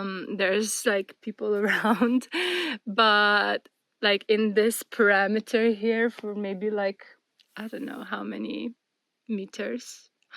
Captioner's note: laughter